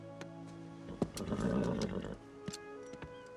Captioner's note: horse nickers